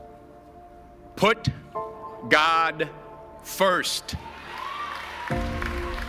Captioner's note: applause